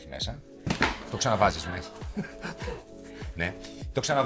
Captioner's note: laughs